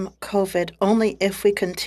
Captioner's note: speaking French